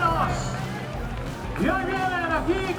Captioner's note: people cheering